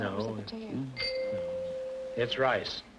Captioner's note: chime rings